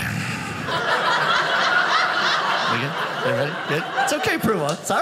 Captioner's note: audience laughing